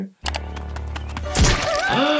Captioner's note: eerie music; keyboard clicking; footsteps approaching; skull teeth puncturing; Toothy yells; gasps